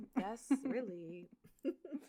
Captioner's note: laughs